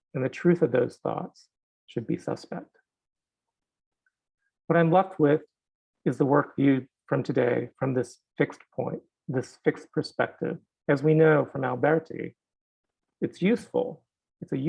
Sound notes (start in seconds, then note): none